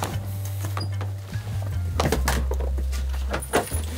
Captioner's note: creaking